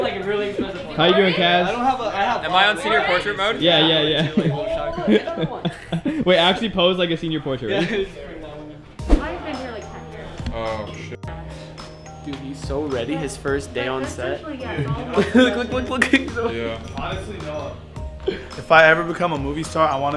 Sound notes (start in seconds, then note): 3.9 laughing; 9.0 gentle music